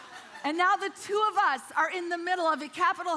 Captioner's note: congregation laughing